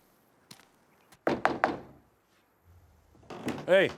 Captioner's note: knocking on door